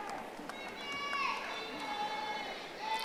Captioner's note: audience applauding